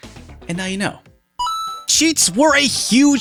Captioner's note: ding!